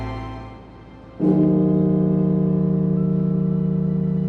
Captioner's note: bell tolling; somber music